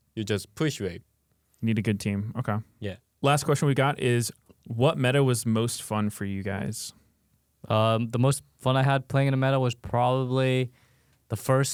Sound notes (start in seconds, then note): none